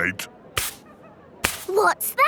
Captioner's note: brushing